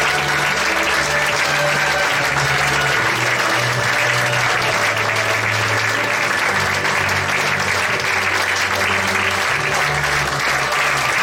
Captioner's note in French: applaudissements